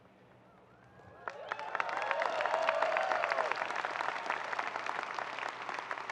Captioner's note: audience cheering and applauding